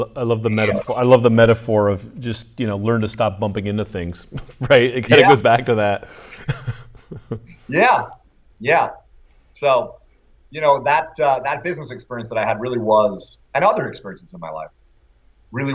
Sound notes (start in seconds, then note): 6.1 laughter